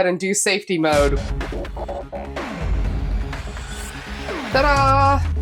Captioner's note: Matrix-esque sound effects